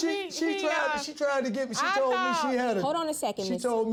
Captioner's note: stammering